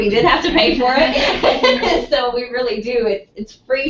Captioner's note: laugh